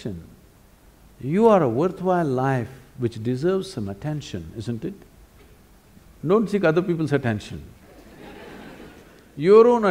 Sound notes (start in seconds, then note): 7.9 laughter